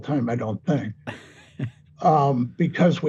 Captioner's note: chuckling